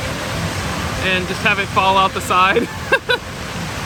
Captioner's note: laughs